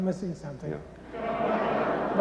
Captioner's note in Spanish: risas